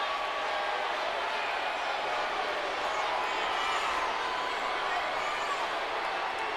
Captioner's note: crowd chattering continues